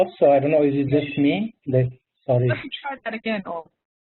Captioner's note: murmurs